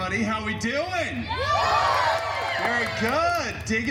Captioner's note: guests cheering